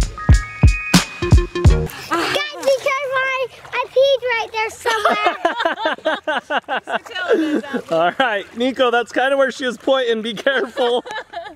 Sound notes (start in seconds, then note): 4.8 family laughing; 10.6 laughs